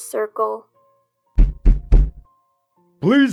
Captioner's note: knock knock Knock